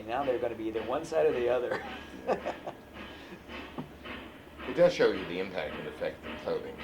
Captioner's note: laughs